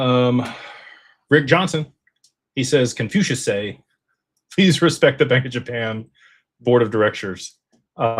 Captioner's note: sighs